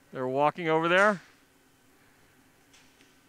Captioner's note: clapping